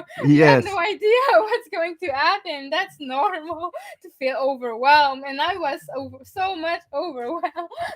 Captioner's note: laughing